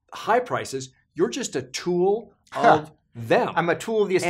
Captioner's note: laughs